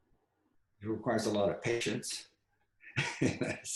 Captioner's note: laughs